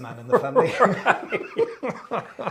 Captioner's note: both laughing